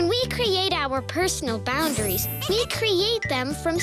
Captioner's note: tinkling